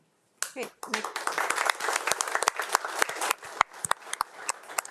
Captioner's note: crowd applauding